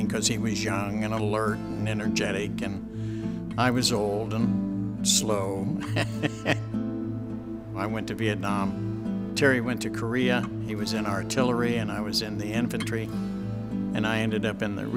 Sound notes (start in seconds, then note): 5.8 laughs